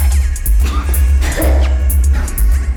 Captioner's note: coughs